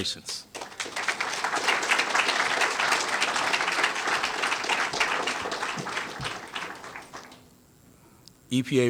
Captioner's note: applause